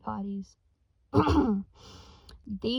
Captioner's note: clears throat